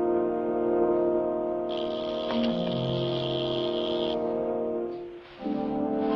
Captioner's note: buzzing